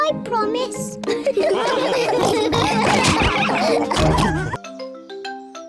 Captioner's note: all laugh